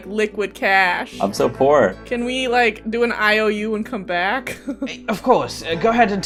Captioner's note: laughs